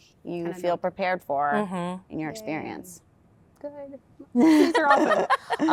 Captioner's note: laughter